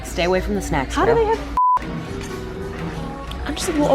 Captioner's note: beeping